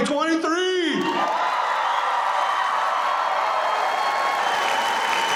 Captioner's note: audience cheering